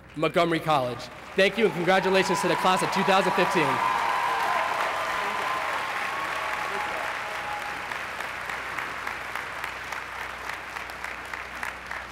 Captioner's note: applause